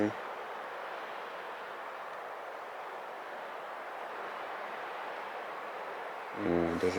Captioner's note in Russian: звук ветра